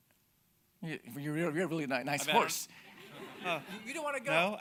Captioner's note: audience laughing